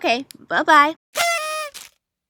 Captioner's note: party horn